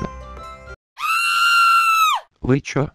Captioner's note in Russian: крики